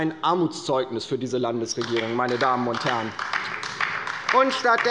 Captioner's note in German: Beifall bei der LINKEN